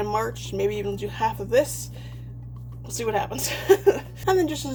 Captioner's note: laughs